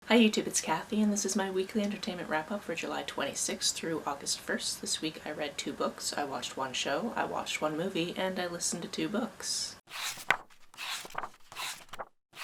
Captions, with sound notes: Hi YouTube, it's Kathy and this is my Weekly Entertainment Wrap Up for July 26 - August 1st. This week I read 2 books, I watched 1 show, I watched 1 movie, and I listened to 2 books. [pages turning]